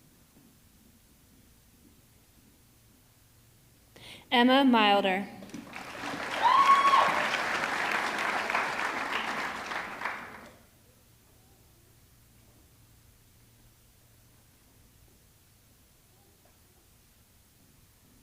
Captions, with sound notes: Emma Milder, (audience clapping) (audience cheering)